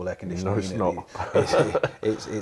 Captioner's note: laughter